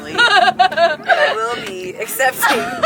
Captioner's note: laughs